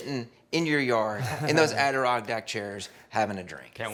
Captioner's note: chuckles